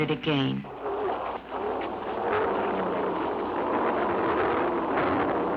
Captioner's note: car engine revving